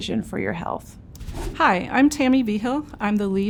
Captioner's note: wind whooshing